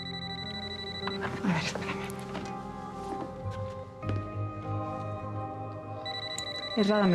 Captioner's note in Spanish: suena el teléfono